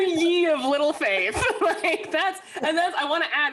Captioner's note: laughs